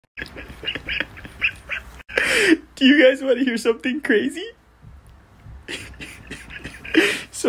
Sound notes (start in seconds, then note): 2.1 inhale; 6.8 inhale